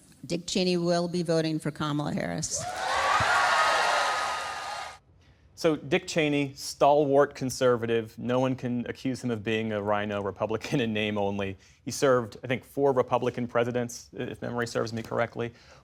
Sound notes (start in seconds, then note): 2.5 cheering; 4.2 applause